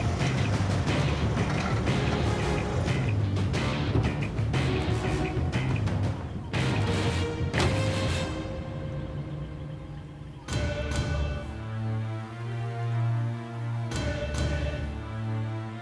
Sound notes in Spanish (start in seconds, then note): 1.6 Ruido del auto